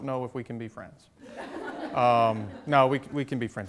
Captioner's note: audience chuckles